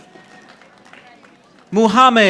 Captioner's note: audience applauding